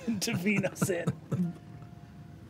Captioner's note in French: rires